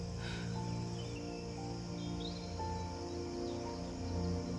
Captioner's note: Benji sighs